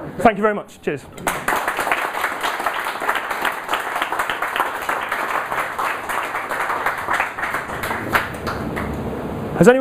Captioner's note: applause